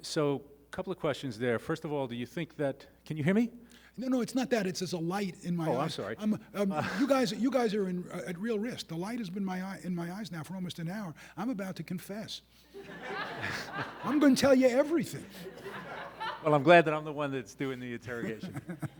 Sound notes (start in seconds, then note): 12.8 audience laughing